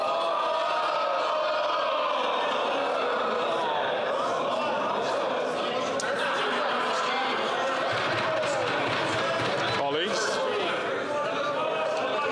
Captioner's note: chatter